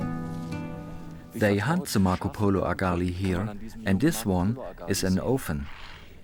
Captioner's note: in German